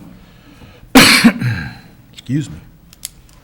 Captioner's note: coughs